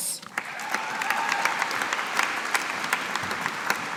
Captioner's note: audience applauding